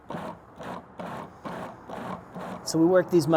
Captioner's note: food processor pulsing